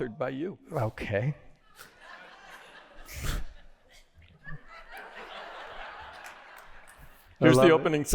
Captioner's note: laughter